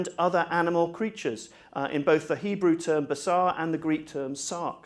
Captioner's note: hebrew